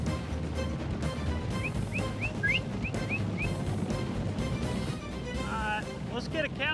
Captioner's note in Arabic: صافرة